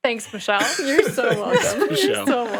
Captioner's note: laughs